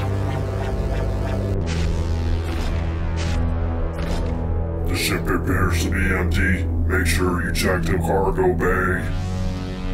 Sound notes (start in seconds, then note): 1.9 footsteps thumping